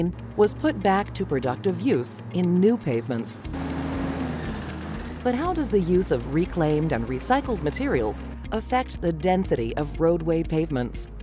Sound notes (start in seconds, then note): 3.8 truck engine